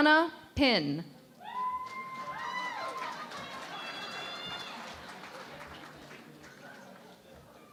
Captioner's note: cheering and Applause